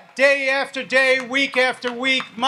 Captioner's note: audience applauds